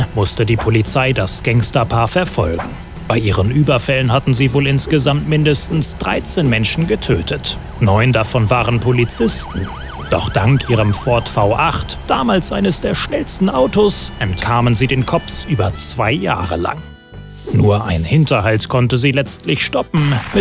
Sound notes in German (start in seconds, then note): 7.8 Polizeisirene